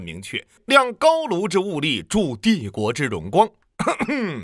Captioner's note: ahem